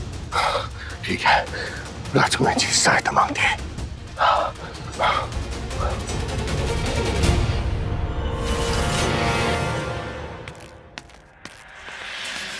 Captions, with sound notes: Okay. I'll go and ask the princess. [panting] [intense music]